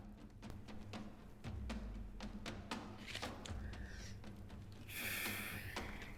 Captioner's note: dramatic music continues; Lynn breathing heavily